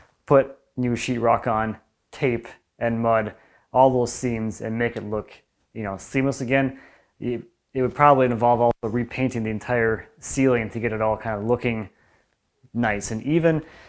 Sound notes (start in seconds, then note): none